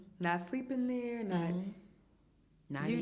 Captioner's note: hums in agreement